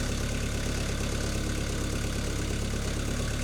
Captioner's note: machine idling